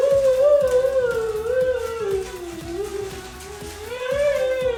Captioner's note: moans